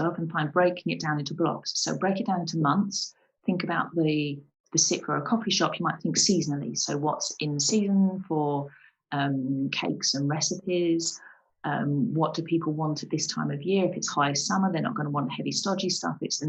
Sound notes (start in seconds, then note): none